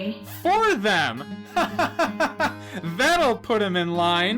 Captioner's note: creepy, jovial laugh